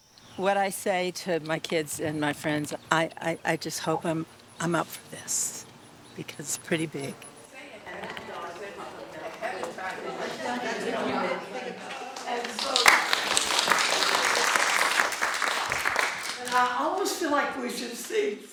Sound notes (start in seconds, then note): 7.5 people chatting indistinctly; 11.8 people clapping